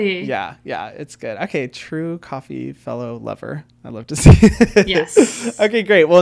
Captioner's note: chuckles